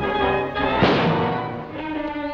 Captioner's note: gunshot